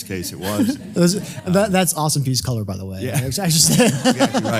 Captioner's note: laugh; laugh